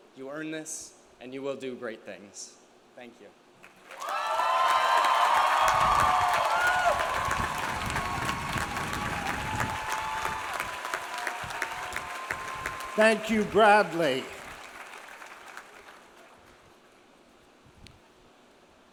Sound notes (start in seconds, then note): 4.4 audience applauds; 4.4 audience cheers